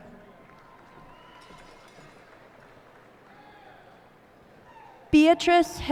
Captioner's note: cheers and applause